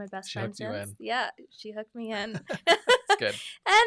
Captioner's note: laughs